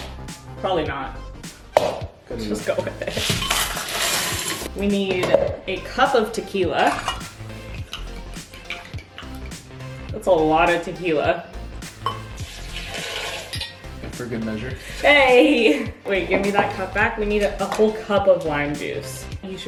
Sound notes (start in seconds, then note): 6.7 tequila gurgling; 12.0 tequila splashing